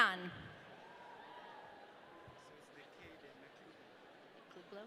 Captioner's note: audience cheering